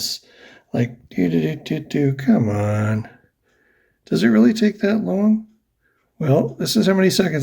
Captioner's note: impatient noises